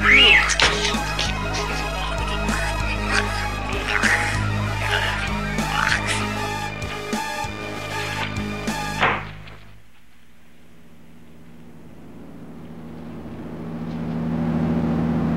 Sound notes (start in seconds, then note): 8.1 music stops; 8.9 door closing; 10.9 music rises